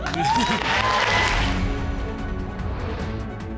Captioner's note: audience clapping and cheering